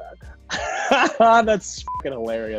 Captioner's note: laughs